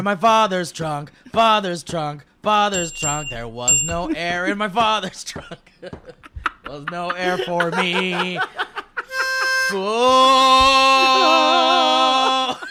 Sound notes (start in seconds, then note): 2.7 ding; 2.7 ding ding